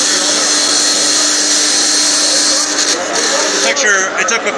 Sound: dot matrix printer grinding noises

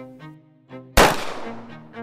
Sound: gunshot noise

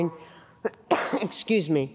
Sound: coughing

